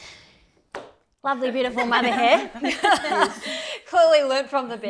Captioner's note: laughter